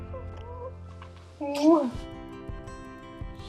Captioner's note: child laughing